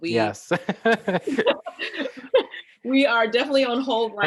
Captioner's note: both laughing